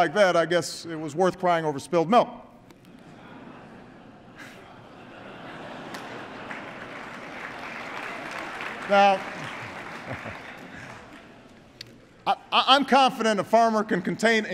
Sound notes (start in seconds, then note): 6.1 laughter and applause